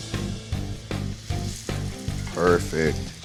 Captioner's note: sizzling